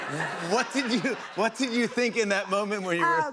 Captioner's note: laughter